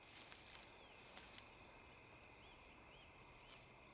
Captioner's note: grass rustling